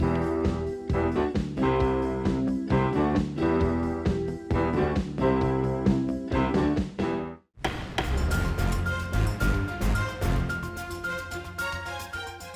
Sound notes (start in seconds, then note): 7.6 gavel strikes; 7.7 suspenseful music